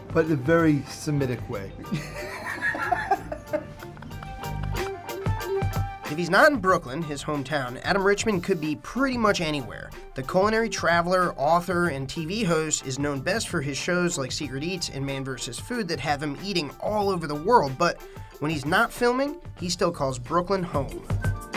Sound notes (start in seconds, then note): 1.8 laughing; 3.9 upbeat music; 21.3 upbeat music